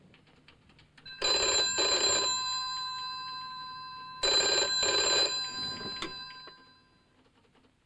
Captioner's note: phone rings